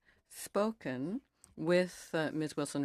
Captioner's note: speaking in French